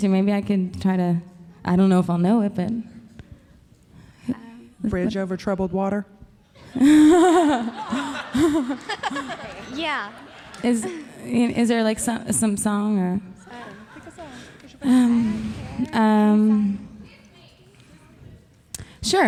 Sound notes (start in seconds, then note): 6.6 laughing; 6.6 audience laughing; 15.1 indistinct conversation